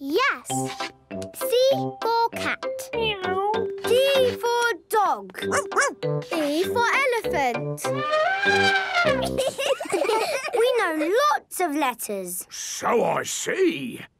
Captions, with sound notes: - Yes! "C" for cat! Meow! - "D" for dog! Woof, woof! - "E" for elephant! (trumpets) - (laughing) - We know lots of letters! - So I see!